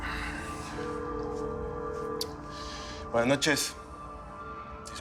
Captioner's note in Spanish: Suena el teléfono